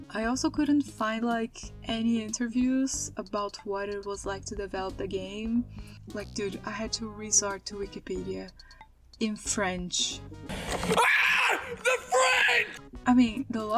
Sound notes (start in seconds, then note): 10.9 screams